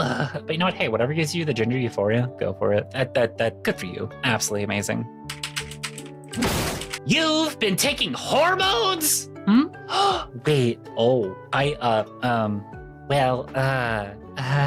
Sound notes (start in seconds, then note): 5.2 typing; 6.3 door slam; 9.9 gasp